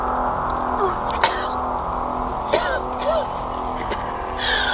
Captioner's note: Astrid coughing